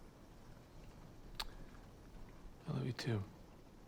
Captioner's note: clicks tongue